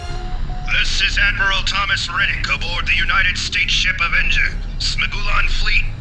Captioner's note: voice over radio